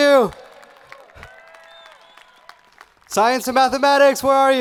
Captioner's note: audience cheering